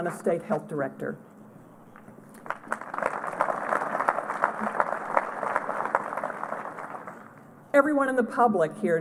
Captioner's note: applause